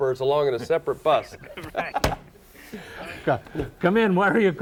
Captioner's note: men laugh